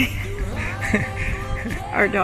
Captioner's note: both laughing